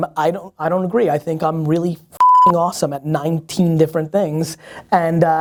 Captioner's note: beep